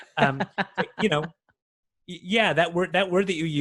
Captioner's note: laughs